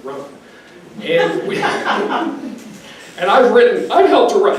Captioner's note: audience member laughs